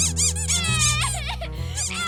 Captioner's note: sobbing